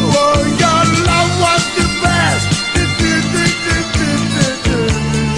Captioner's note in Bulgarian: ту - ту -ту - ту- ту